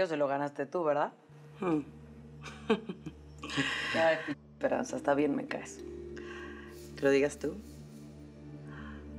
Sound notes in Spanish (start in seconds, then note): 3.4 Ríe